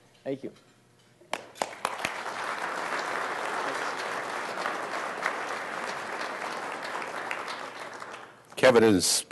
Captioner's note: applause